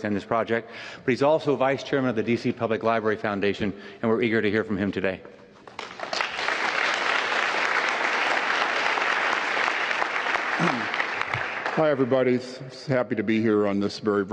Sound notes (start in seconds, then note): 5.6 applause